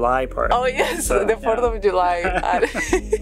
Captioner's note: laughs